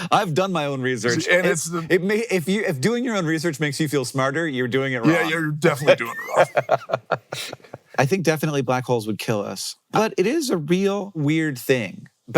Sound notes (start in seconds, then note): 5.7 laughing